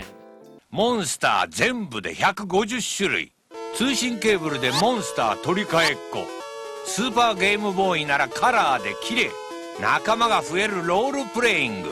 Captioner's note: Pokemon TV Commercial Plays